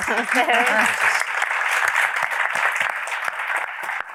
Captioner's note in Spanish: aplausos